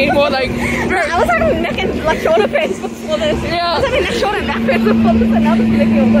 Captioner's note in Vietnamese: laughter